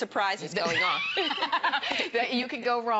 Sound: laughter

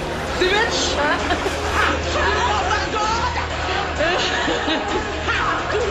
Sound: laughing

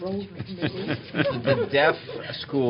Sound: laughter

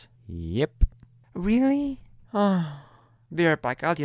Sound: sigh

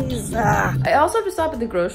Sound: groans

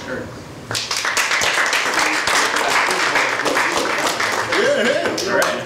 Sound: audience applauds

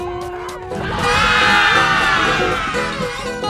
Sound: screaming

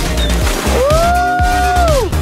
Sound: water splash; upbeat music

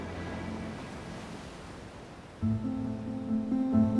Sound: waves crashing

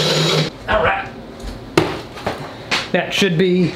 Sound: drill whirring; loud thud

